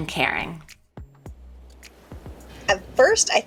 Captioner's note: ocean wave crashes